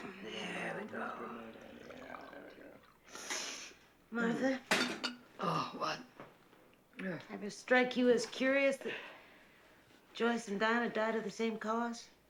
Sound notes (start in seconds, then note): 3.1 sniffles